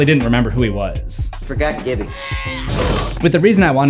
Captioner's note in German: oof